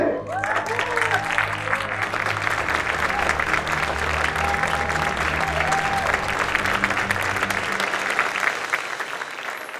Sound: applause

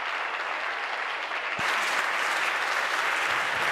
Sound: voice trailing; applause

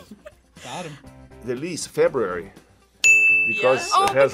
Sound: bell rings

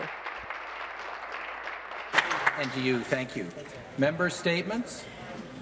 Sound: applause

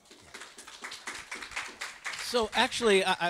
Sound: audience applauds

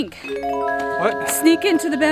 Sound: chimes

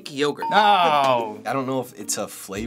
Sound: ding

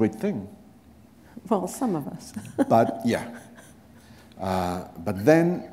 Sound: chuckle

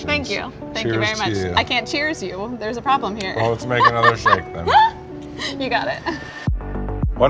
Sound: laughs

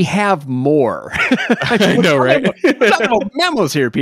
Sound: laughing

